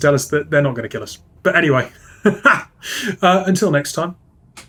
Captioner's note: laughs